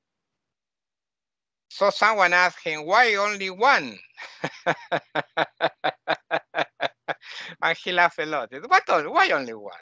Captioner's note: laughing